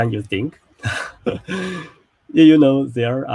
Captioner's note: both laugh